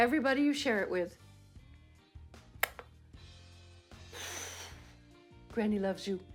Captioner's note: blows kiss